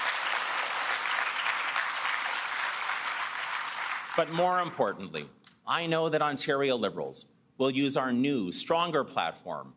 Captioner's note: applause